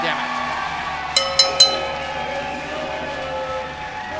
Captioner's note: bell dinging